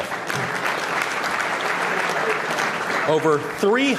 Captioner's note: applause